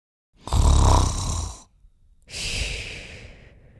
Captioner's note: snoring